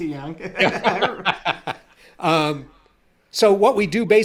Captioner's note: both laughing